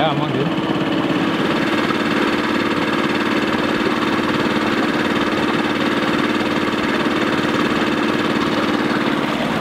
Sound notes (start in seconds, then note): 2.2 sonar rumbling